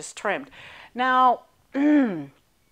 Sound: clearing throat

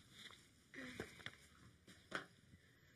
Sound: sighs

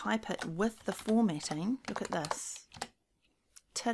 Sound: keys tapping

